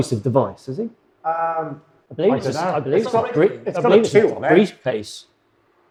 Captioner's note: talking in unison